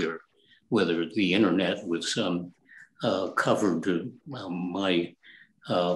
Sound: ummm

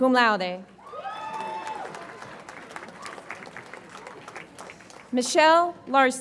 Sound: audience applauds and cheers

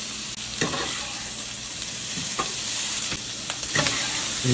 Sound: skillet sizzles

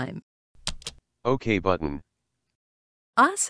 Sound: voiceover

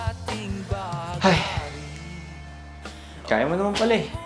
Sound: sighs

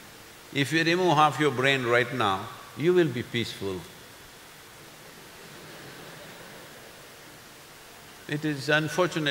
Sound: few laugh

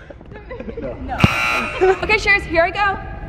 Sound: fail buzzer sound

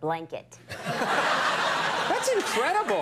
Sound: crowd laughing

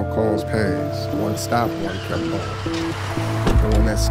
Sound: tires screech

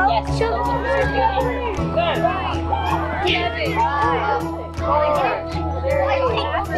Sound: shouting, countdown

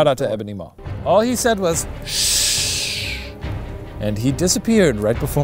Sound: shushes

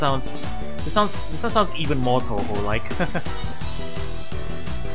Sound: laughs

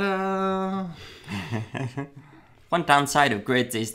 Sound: laughing

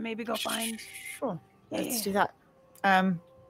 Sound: stammers

